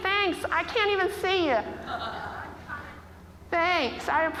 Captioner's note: audience laughing